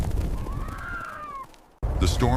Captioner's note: screaming